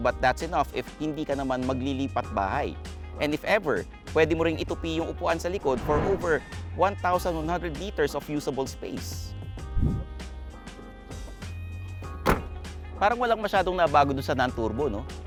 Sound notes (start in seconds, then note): 12.0 trunk thuds